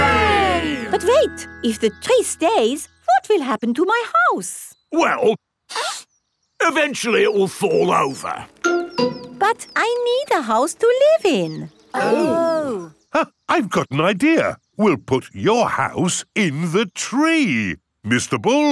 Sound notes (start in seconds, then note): 5.7 sniffs; 13.7 gasps